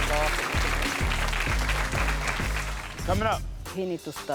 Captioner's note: audience claps